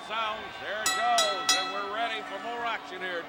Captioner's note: bell rings